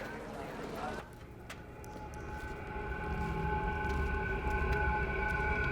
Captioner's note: footsteps